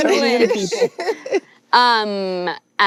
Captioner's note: laughs